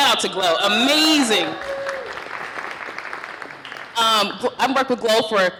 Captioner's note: cheering, applause